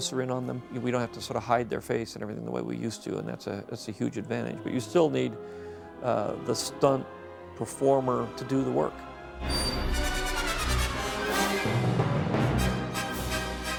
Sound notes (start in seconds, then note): none